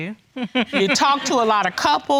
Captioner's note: chuckles